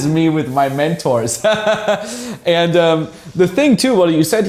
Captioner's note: laughter